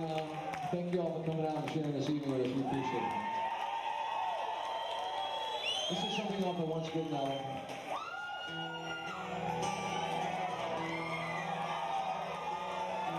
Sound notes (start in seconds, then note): 3.8 audience cheering; 8.1 audience cheering; 8.3 gentle guitar music